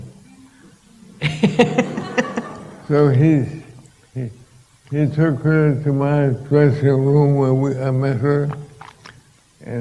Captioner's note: laughter